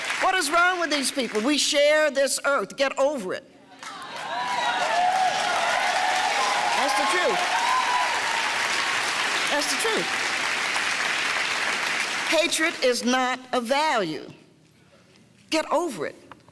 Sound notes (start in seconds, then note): 10.3 clapping